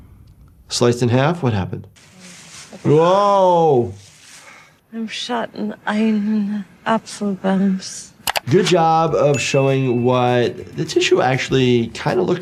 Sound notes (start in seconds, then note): 4.0 leaves crunching